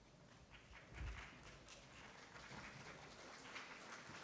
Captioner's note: applause